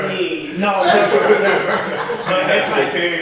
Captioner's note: group laughs